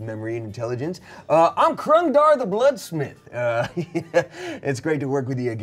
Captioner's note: chuckles